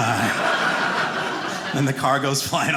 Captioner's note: audience laughing